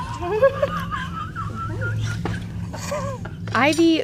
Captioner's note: everyone laughing